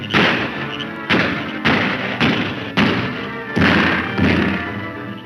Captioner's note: copious gunfire